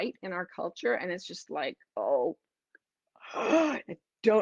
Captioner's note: gasping